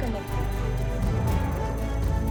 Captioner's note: computer sound